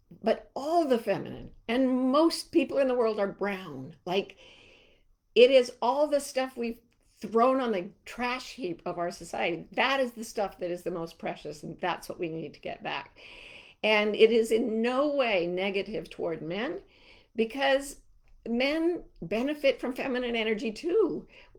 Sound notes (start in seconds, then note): none